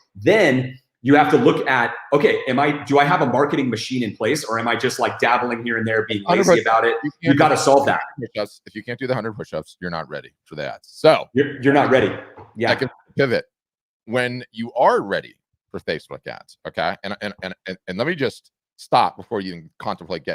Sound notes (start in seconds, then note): 6.0 static; 11.8 static